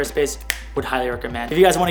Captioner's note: snap